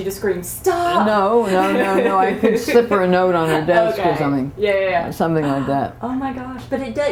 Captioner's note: laughter